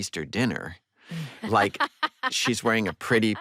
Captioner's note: laughs